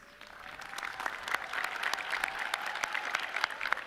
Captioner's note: audience cheering